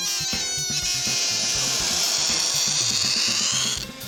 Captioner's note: air squeals; squealing continues